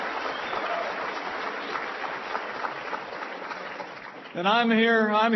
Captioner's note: applause